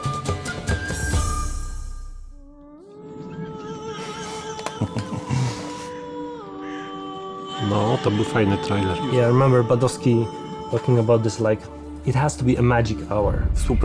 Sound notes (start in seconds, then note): 4.4 ethereal music playing; 7.6 in Polish language